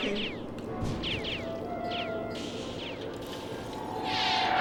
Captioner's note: laser blasts